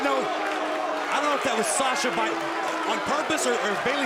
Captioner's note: crowd chatter